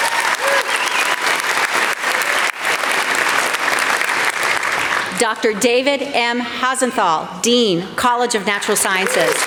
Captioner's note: applause